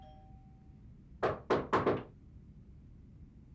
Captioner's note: door bell rings; knocking